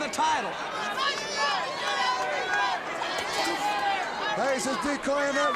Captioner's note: crowd cheering